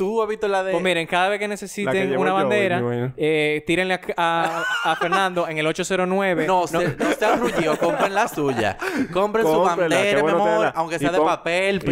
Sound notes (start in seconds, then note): 6.4 laughs